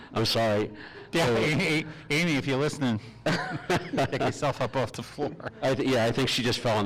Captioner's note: laughing